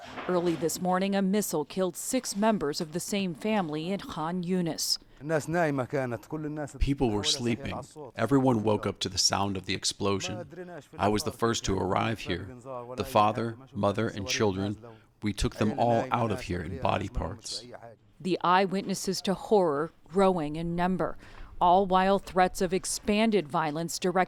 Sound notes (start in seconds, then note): 7.6 through translator